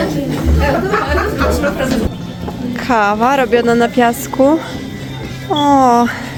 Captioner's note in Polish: śmiech